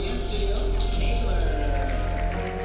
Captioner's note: applause